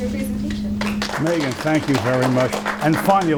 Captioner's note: applause